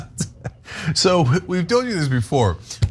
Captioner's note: laugh